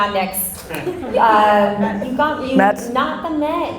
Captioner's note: laughing